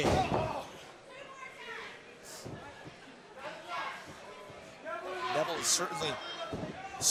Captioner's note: crowd chatter